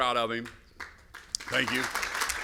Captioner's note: applause